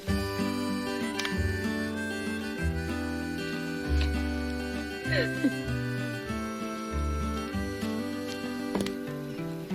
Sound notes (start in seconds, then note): 4.9 corrie laughs